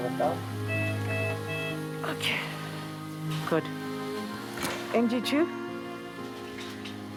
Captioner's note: machine beeps